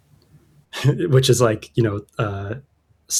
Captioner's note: laughter; uh